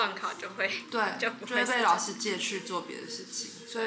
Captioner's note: laughs